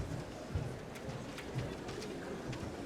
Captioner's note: applause